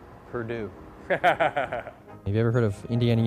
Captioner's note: laughs